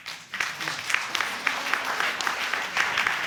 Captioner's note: audience applauding